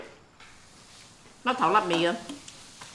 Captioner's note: Cantonese